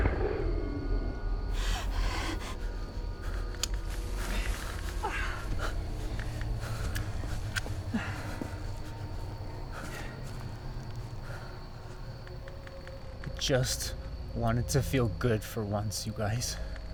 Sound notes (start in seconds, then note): 6.6 groans; 7.7 soft tense music